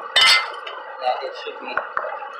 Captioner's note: clang